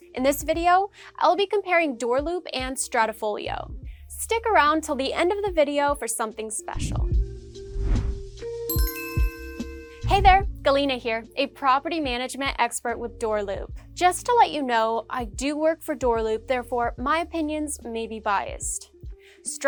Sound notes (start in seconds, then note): 7.1 rhythmic beat music; 8.7 logo rings